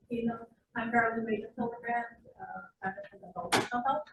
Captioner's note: speaking faintly